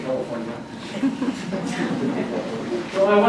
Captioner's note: audience laughs